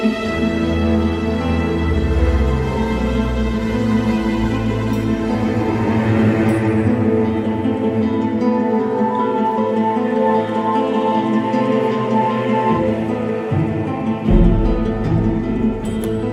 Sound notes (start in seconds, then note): none